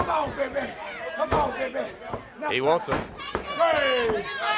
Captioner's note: crowd chatter